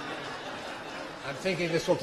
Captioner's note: laughter